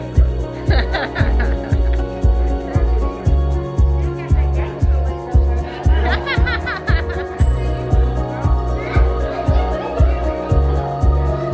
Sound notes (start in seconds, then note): 0.7 laughter; 2.6 inspiring music; 6.0 laughter; 8.5 inspiring music